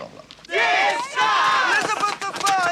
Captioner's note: shouting